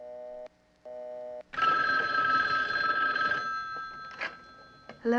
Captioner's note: phone ringing